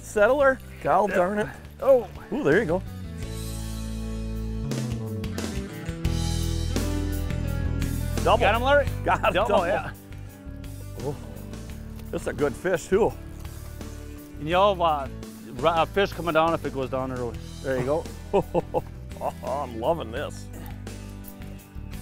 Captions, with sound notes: Settlers, God darn it. - [Voiceover] Oh, there you go. Got him, Larry. (splashing) - [Voiceover] That's a good fish too. - [Voiceover] Eel lives. Fish come onto it on the hook. - [Voiceover] There you go! (laughs)